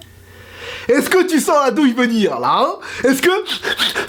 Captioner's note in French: reniflement bruyant